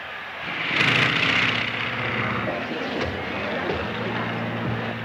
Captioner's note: airplane buzzing